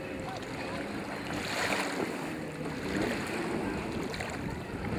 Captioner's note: water washing